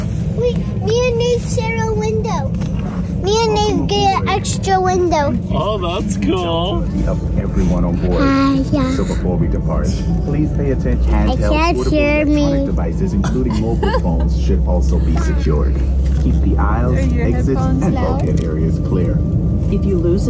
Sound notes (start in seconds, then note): 13.5 laughs